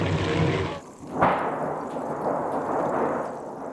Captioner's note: thunder clapping